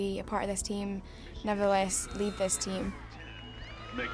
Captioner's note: team cheers; audience cheers